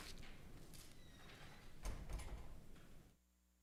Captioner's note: door closes